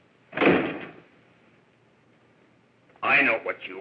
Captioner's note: door slams